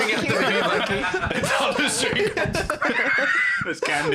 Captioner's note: all laughing